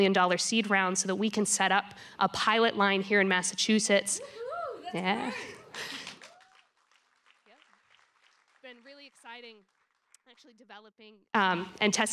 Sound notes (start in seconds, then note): 5.7 applause; 6.1 cheering